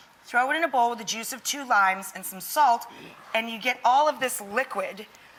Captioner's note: none